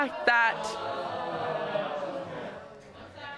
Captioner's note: audience exclaiming